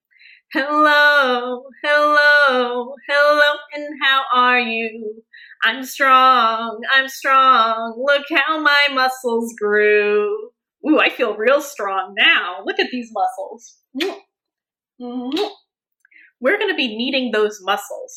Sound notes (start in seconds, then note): 15.2 kissing sounds